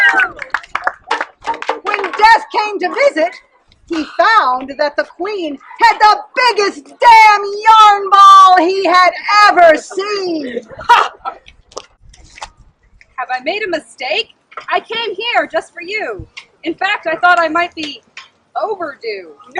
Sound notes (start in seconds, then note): 0.0 applause